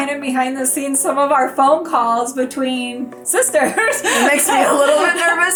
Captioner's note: laughs